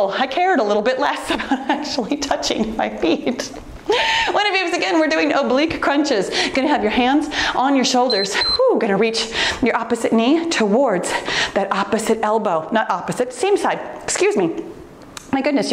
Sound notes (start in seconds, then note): 8.0 timer beeps